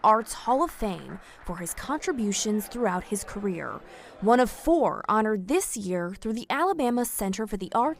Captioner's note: applause